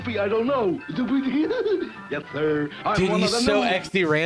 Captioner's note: giggles